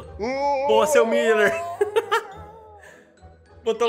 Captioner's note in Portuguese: risos